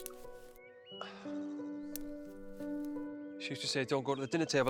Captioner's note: gentle orchestral music; Jim sighing